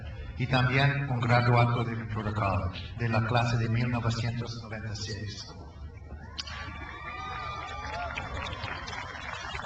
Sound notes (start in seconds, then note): 6.2 crowd cheers